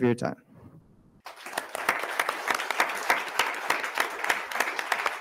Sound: attendees clapping

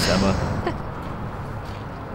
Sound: emma laughs

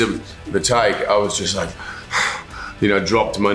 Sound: breathing heavily

